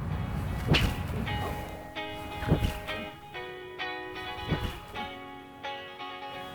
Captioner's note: boomerang whipping; soft rock music